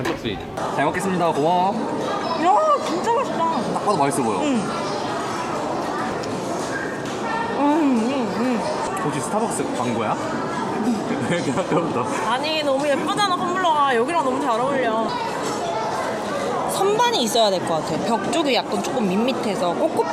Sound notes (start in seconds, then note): 6.6 Nom nom nom